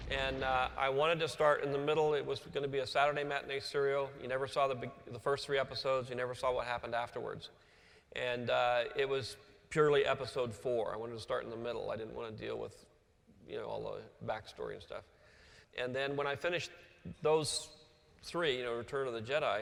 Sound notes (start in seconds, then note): none